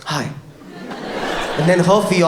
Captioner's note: audience laughs